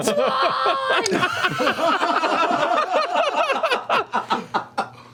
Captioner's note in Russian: смех